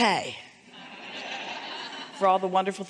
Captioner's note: audience laughing